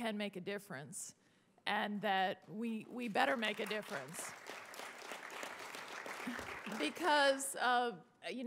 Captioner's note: applause